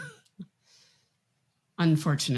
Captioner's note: chuckles